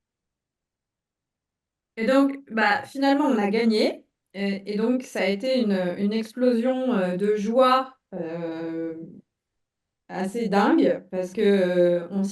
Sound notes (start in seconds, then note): 0.8 speaking in French